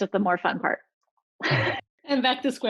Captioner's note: laughing